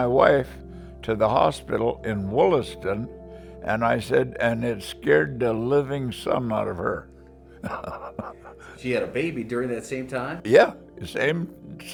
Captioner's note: laughs